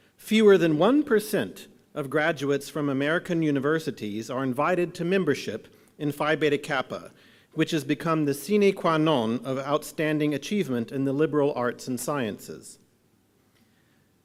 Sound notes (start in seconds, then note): none